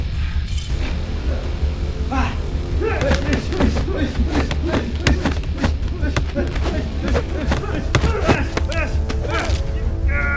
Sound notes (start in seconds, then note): 1.1 dramatic music; 2.7 men grunting; 2.9 fists thudding